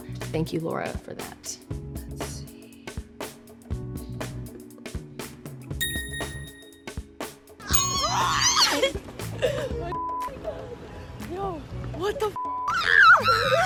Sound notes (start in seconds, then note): 3.5 upbeat music; 5.8 phone dinging; 8.0 ladies laughing and screaming